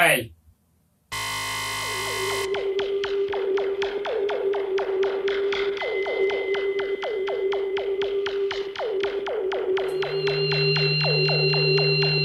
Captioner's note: sounds of the device and the opening of the portal